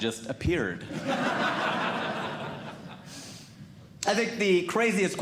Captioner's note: audience Laughing